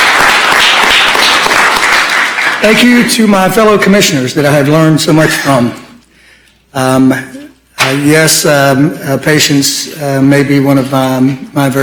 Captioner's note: applause